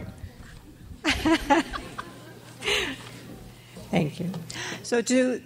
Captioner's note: laughs